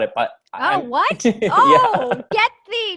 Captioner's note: laughs